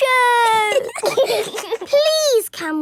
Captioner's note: giggling